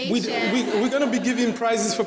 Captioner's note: audience laughing